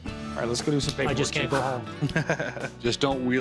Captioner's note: chuckles